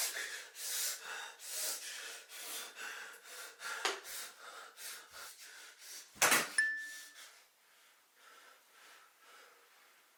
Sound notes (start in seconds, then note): 6.6 bell dings